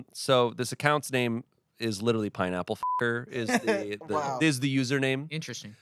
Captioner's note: beep